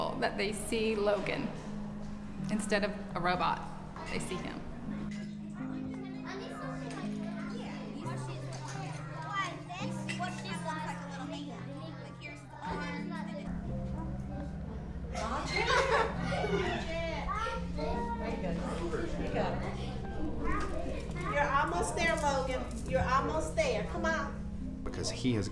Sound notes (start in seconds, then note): 8.6 children chatting as they work in the classroom